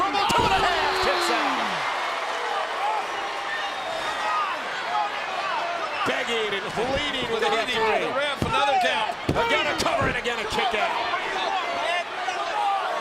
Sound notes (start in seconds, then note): 1.1 applause